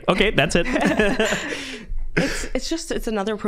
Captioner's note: all laughing